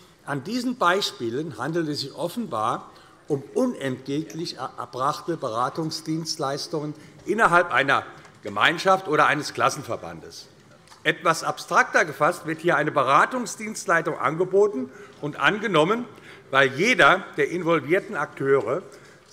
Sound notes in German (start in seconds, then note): none